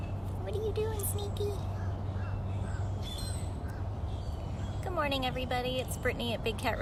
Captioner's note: birdsong